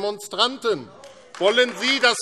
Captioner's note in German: Beifall AfD